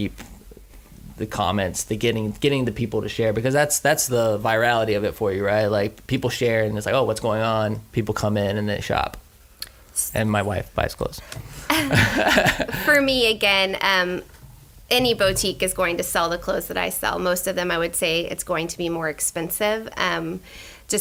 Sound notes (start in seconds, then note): 11.7 laughter